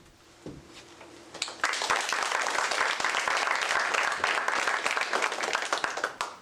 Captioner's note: applause